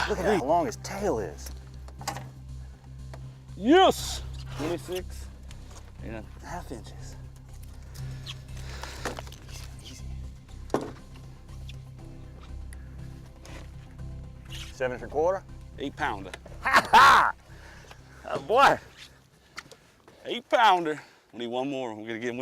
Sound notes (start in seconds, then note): 8.0 dramatic music; 16.6 laughter